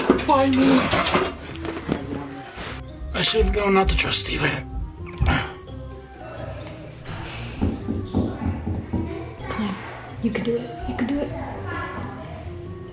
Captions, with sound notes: Why me? I saved all not to trust Stephen. (door knocking) - Come on, you can do it, you can do it.